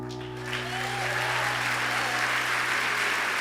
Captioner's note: applause